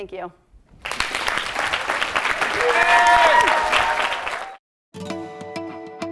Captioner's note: applause